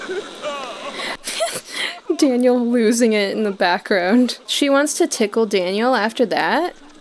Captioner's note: chuckling